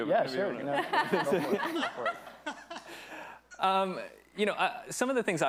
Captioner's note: attendees laughing